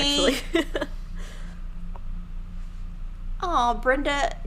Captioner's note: laughing